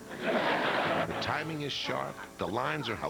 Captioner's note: laughter